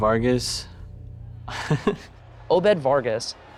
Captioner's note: chuckles